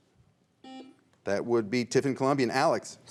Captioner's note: buzzer rings